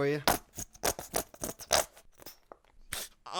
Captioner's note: sounds of squirting bottle; sounds of lotion application